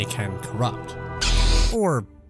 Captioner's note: lightsaber turns on